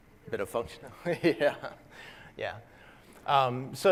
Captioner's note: laugh